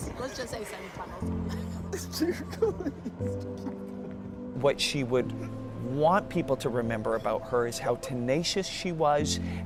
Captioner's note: laughter